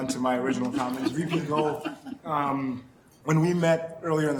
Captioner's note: woman chuckling